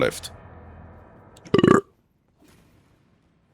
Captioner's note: burp